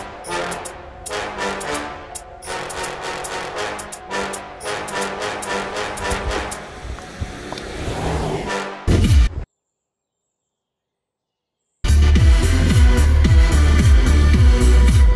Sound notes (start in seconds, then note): 4.6 music stops; 6.9 distant engine sounds; 8.9 impact; 11.8 loud music playing